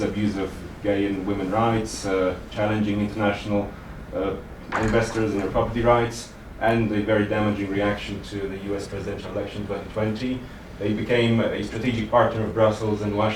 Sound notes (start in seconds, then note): none